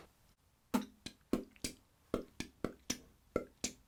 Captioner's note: man beatboxes